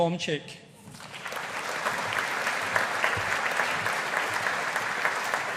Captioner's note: audience applauding